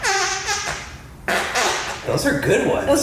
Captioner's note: arm fartttttt